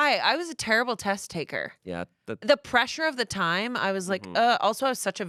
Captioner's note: groans